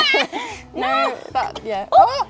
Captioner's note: laughing